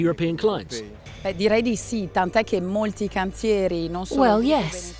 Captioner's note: in foreign language